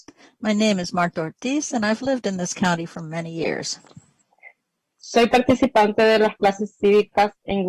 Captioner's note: speaking spanish